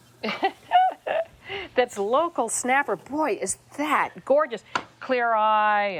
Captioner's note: laughing